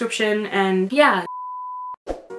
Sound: beep noise

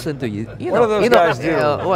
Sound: laughing

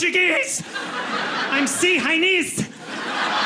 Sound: audience laughing

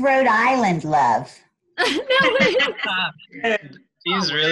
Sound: laughter

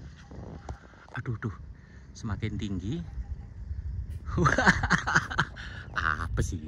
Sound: laughs

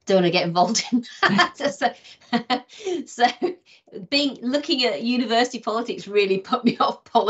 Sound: laughing

